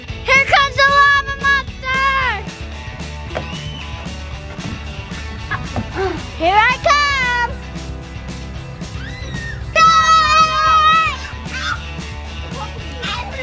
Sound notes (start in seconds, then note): 8.8 kids shouting; 10.2 cheerful music